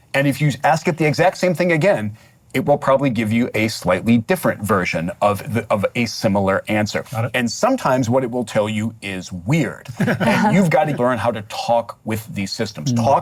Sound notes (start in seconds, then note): 9.8 laughter